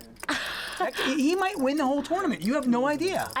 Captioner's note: laughing